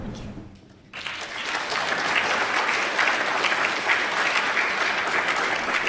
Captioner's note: applause